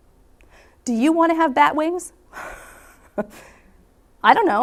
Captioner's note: chuckles